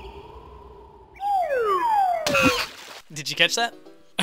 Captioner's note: bug falls into a bend and screams